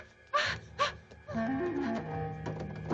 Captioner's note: Priscilla moans; door rattling